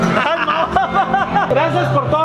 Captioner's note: drunken laughter ensues